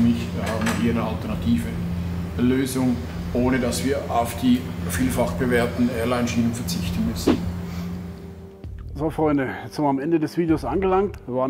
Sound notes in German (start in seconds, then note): none